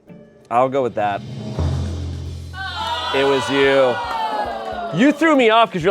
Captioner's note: crowd exclaims